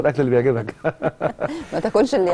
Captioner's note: laughter